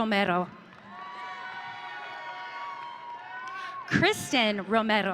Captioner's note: audience cheering